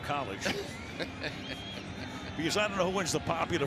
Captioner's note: laughter